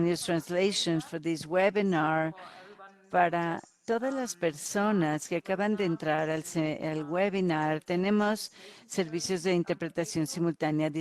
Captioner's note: in Spanish